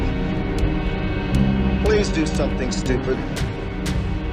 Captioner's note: on TV